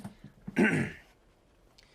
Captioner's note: clears throat